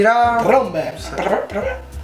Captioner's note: makes trumpet noises